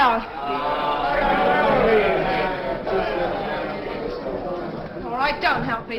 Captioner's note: crowd moans